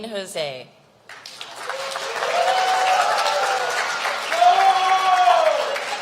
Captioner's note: applause